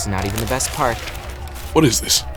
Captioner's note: paper sounds